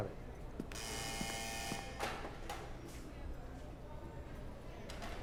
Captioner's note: doors buzzing; distant voices chattering